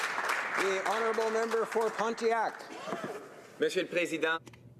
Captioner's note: applause